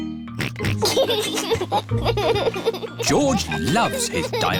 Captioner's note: oinks and laughs